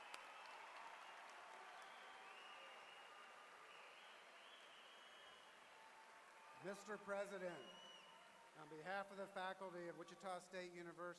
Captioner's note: applause